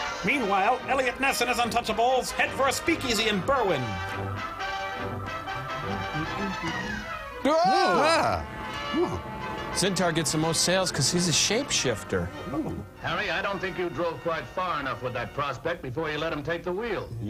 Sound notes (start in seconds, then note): 7.4 all exclaim